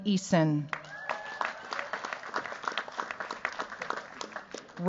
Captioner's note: cheers, applause